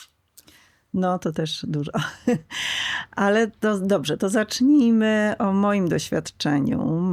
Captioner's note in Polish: śmiech